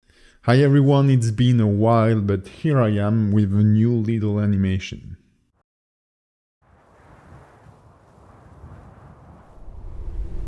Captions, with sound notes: - Hi everyone. It's been a while but here I am with a new little animation. (wind blowing)